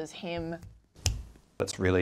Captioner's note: clicks fingers